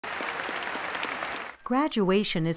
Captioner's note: applause